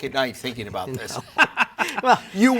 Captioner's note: laughs